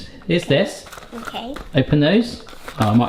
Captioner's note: box rattles